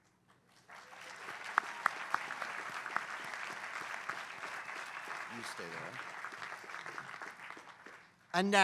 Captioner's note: applause